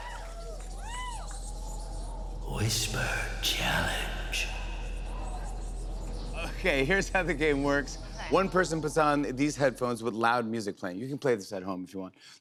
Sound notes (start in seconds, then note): 2.4 whispering